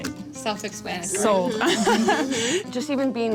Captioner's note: laughs